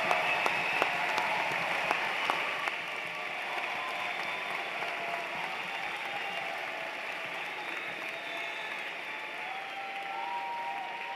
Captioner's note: cheers and Applause